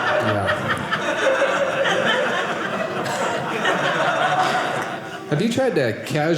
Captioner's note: audience laughing